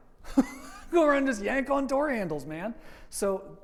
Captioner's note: laughs